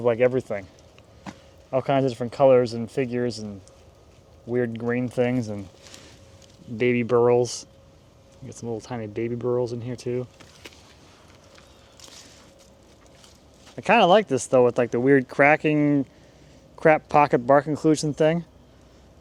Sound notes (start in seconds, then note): none